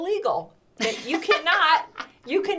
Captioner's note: laughter